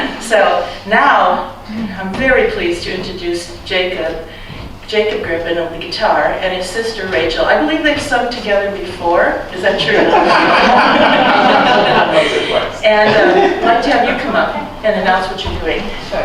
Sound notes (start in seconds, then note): 9.7 laughter